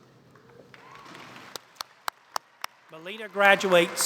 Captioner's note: applause